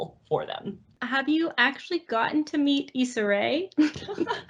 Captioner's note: laughs